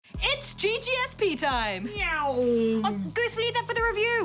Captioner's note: makes engine sounds